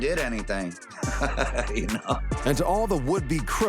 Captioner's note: laughs